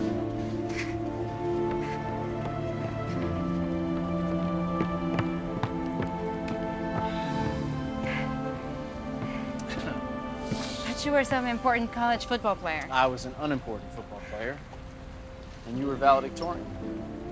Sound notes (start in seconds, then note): 9.3 Tommy laughs out of breath